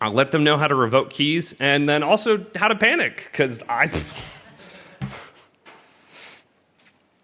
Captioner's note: laughter